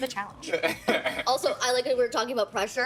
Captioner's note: laughing